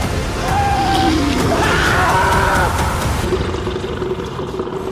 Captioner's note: Jed screaming